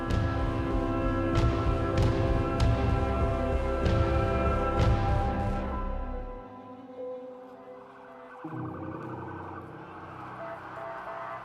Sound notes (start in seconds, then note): 0.3 soft expectant music; 8.0 sirens blaring